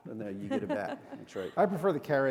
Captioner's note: chuckle